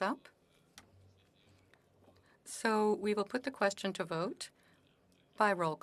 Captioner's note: speaking French